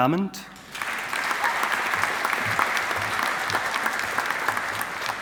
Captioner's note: audience applauding